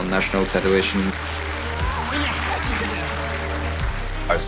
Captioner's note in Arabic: تصفيق الجماهير